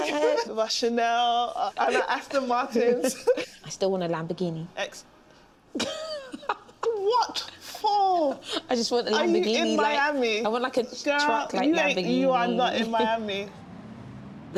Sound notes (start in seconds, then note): 5.3 stammers; 5.7 laughs